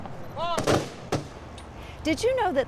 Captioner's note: guns firing